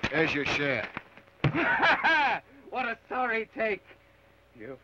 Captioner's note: laughs